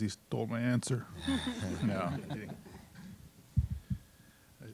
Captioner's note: all laughing